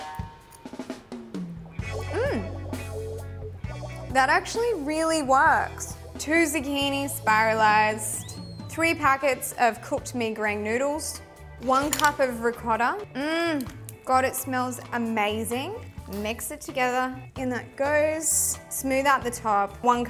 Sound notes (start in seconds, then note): 0.2 upbeat music; 13.2 moans loudly